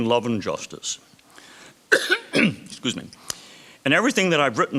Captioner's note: coughs